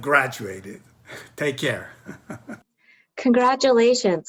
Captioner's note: chuckling